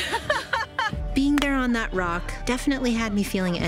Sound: laughs

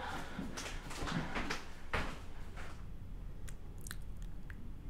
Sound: footstep on floor; heavy breathing

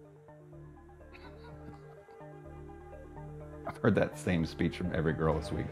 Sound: laughs

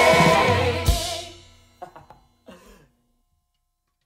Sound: laughs

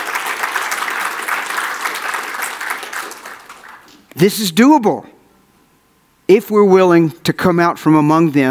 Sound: audience applauds

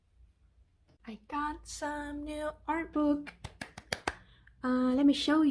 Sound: clapping

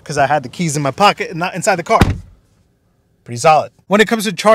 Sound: car door closes

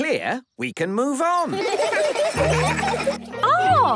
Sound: laughter

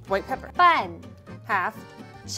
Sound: speaking in mandarin

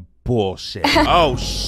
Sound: woman laughs

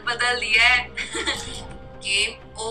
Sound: laughing

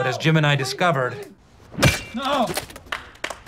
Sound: applause

